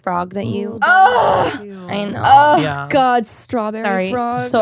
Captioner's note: exclaims